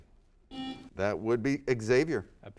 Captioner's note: buzzer sounds